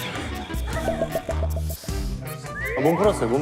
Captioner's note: scratch, scratch